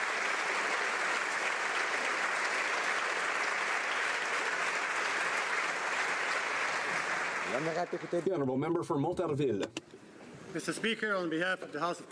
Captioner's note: applause